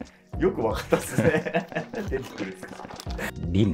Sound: laughing

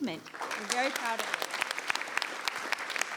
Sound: applause

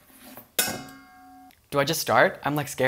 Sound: bowl clangs

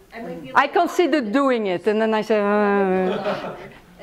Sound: laughter

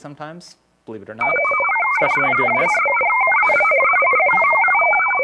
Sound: modem shrieking with bubbling interference

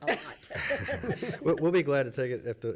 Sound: laughing

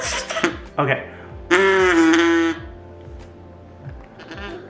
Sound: ballon trumpeting; balloon stretching

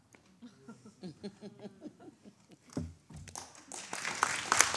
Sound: panelists chuckling; audience applauding

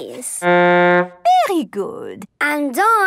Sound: horn blowing

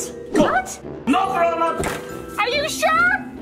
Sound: door thuds

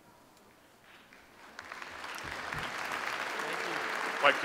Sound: audience applauds

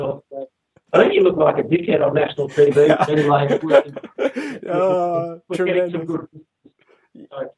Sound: laughter

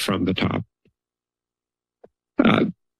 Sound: pause

